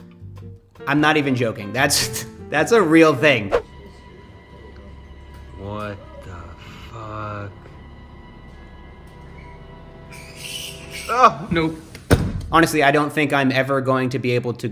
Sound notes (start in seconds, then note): 3.7 eerie music; 7.8 bat screeching; 7.8 eerie music